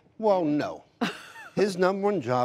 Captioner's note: laughter